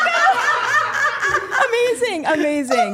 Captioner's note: group laughing